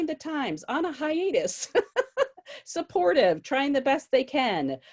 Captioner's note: laughs gently